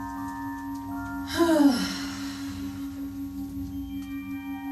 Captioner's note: sighs